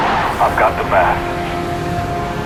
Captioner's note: radio